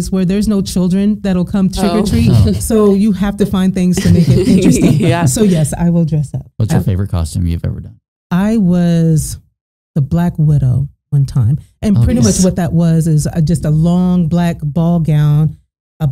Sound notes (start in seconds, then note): 1.8 chuckling; 4.0 both laughing